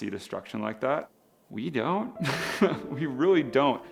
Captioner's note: laughs